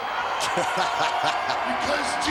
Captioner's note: Vince laughing